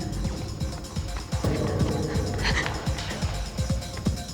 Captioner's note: panting